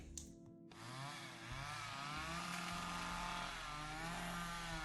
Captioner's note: chainsaw whirs